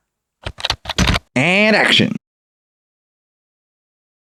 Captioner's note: typing